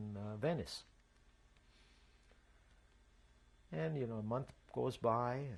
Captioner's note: pauses for 3 seconds